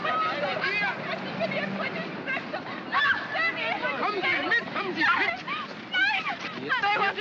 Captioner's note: commotion; Frederica shouts in German